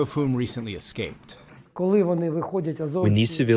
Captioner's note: through translator